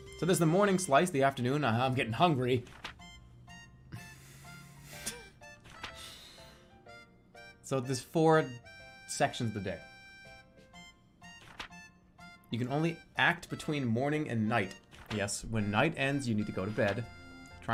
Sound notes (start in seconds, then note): 3.9 holding out laugh